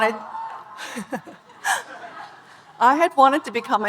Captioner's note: speaker and audience laughing